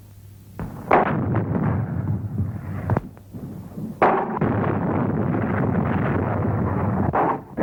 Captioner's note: explosion rumbles; artillery firing